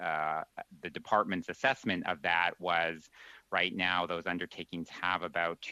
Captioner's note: speaking French